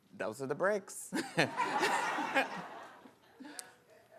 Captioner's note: laughing